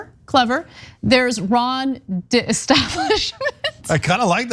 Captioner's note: laugh